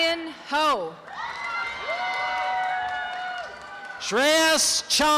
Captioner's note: applause and cheering